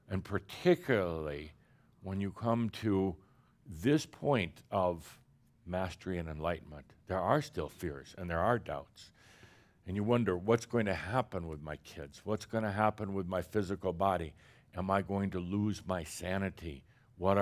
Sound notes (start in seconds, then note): none